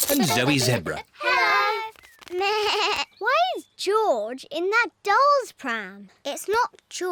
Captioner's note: bleats